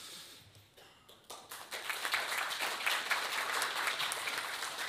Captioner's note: audience applauds